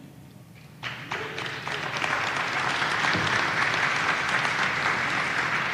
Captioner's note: audience applauding